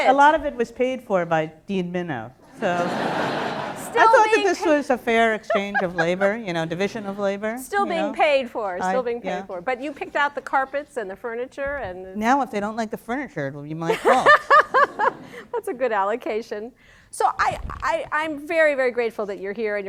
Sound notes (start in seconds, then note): 2.6 laughter; 13.9 laugh